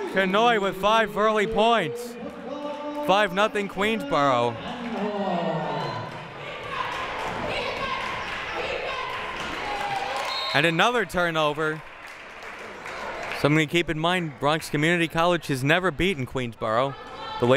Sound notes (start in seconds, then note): 6.6 crowd